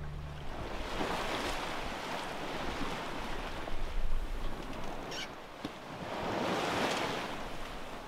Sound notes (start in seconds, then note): 1.5 waves crashing